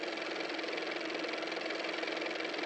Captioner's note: car motor